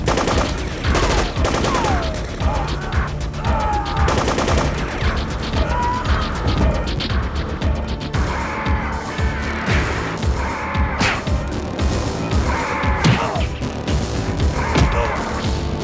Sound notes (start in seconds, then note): 0.0 machine guns firing; 3.3 man screaming; 4.0 machine gun firing; 4.5 man screaming